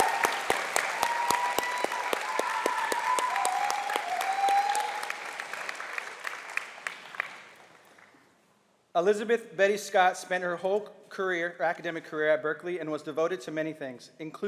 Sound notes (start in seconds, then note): 3.8 applause